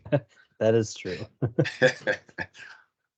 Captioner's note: laughing